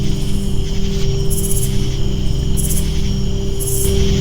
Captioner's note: crickets chirping